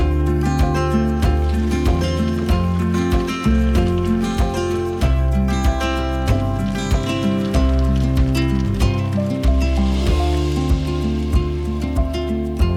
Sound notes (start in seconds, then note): 1.1 inspirational rhythmic music; 1.1 water gushing; 6.9 inspirational rhythmic music; 6.9 water gushing